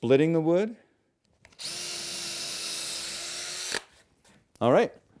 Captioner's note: drill